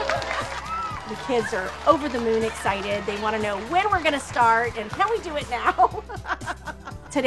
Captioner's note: laughs